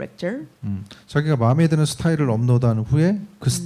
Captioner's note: speaking korean